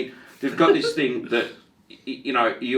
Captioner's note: laughing